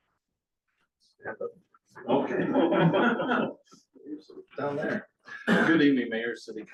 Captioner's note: laughter